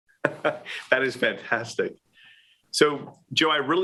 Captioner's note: laughing